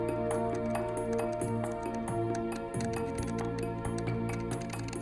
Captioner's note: keyboard clicking